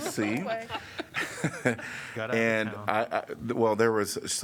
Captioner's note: laughter